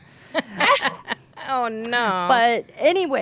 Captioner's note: laughing